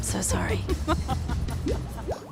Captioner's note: laughs